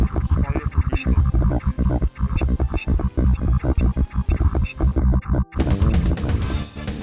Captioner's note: nightmarishly bit-crushed voice lines